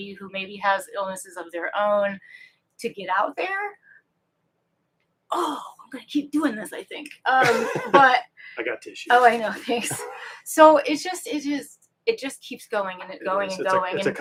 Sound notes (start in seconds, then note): 7.4 laughs